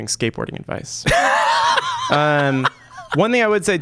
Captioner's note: laughter